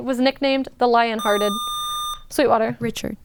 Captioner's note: buzzer